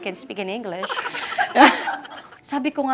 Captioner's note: laughs